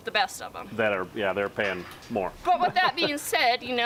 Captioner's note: chuckles